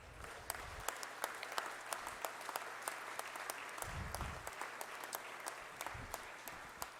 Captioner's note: applause